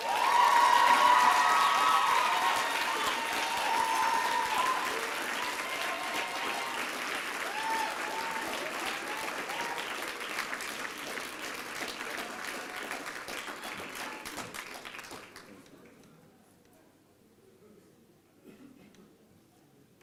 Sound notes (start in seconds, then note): 0.3 applause and cheering; 8.8 applause